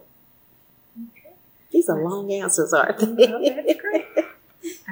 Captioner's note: laughs